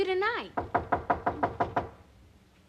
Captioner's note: knocking on door